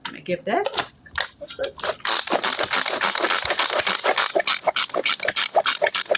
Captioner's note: processor chopping